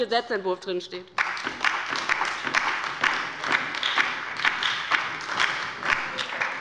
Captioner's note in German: Beifall bei der LINKEN und der SPD